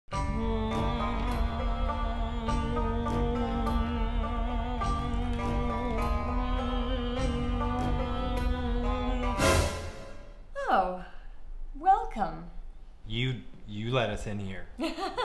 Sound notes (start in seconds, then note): 0.3 sitar music; 3.1 humming